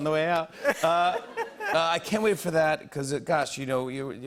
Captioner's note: laughter